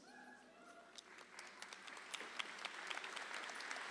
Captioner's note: audience applauds